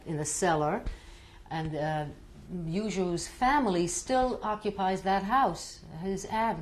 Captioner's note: non-english